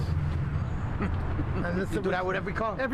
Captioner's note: chuckling